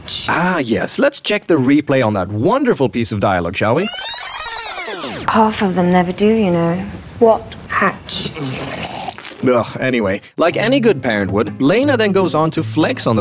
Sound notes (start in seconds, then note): 8.1 vomits